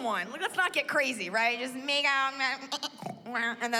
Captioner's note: mimics snoring